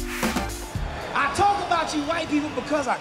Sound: cheering

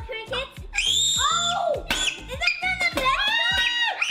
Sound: screams

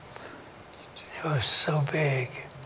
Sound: whispered

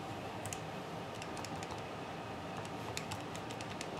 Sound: typing

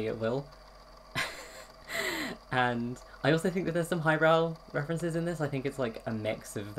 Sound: laughs

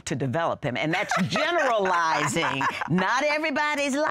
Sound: laughing

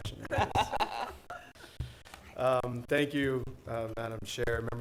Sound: laughs

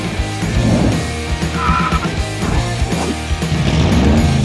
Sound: tires screeching

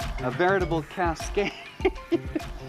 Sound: laughter

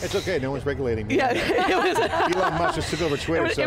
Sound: all laugh

